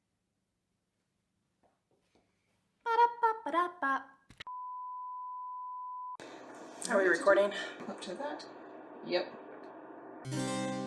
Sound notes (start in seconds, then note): 4.3 film beeping